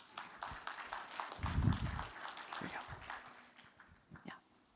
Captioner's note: applause